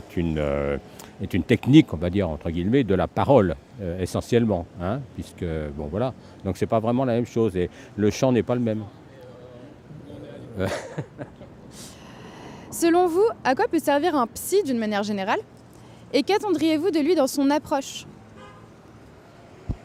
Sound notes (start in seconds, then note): 10.4 laughs